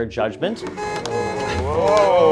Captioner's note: car horn honking